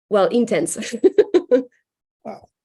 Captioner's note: laughs